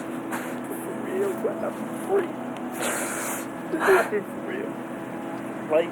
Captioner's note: cries